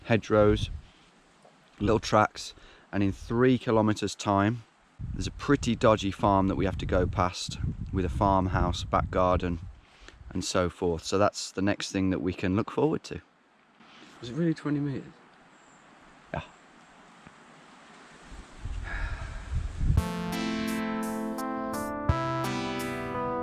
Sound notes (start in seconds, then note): 18.8 sighs; 20.0 relaxing music plays